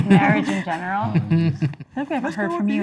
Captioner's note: laughing